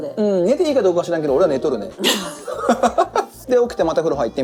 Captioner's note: laughs